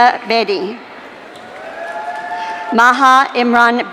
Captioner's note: audience cheering